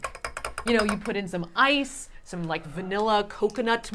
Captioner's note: none